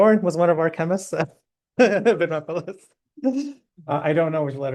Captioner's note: laughter